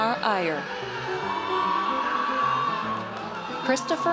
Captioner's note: audience cheers